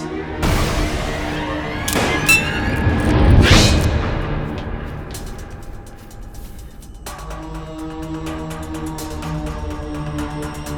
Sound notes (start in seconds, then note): 1.8 gun shot; 7.5 fast ominous music